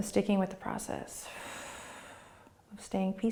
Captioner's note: exhaling